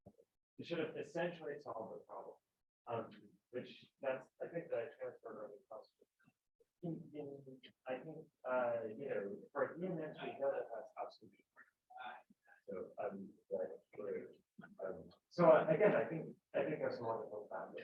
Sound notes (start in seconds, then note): 11.9 speaking off mic